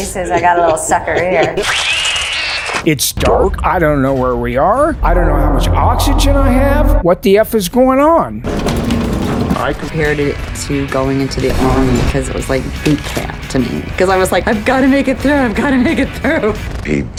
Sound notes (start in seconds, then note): 1.6 screams; 8.6 drowning sounds